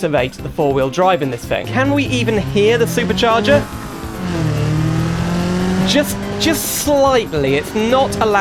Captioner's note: quiet whine noise